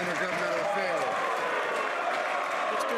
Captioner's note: some Applause